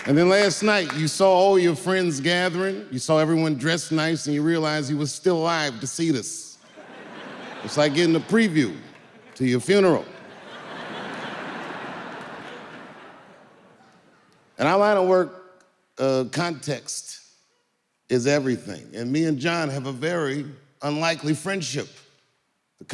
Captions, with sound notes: And then last night you saw all your friends gathering. You saw everyone dressed nice, and you realized you were still alive to see this. It's like getting a preview to your funeral. (audience laughing) In our line of work, context is everything. And me and Jon have a very unlikely friendship.